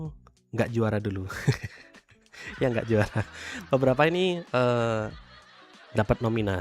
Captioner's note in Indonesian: tertawa